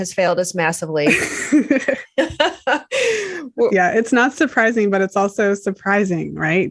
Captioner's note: laughter